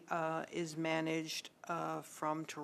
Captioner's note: speaking French